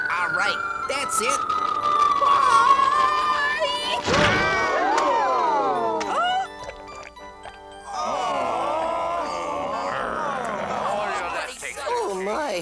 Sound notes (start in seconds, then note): 0.2 Tweeg shouts; 1.1 projectile whistling; 7.8 all groan